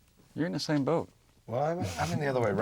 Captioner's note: chuckles